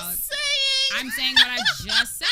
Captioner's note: laughs